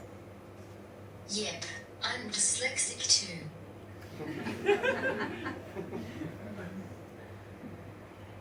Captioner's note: audience laughs